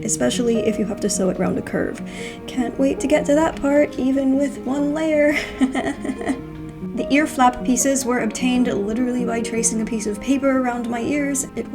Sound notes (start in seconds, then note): 5.4 nervous laugh